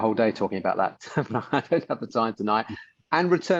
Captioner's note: chuckles